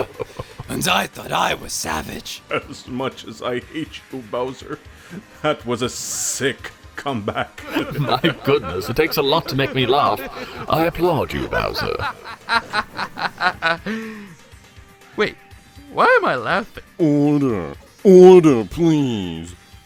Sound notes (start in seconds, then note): 0.0 laughter; 3.3 laughing; 12.9 obliviously laughing at himself